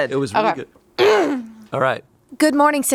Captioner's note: clears throat